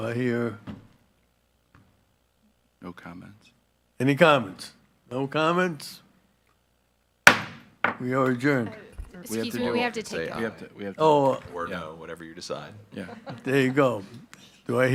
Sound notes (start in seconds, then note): 7.3 gavel banging; 12.8 attendees laughing